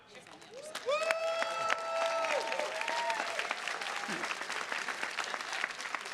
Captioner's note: attendees cheers and claps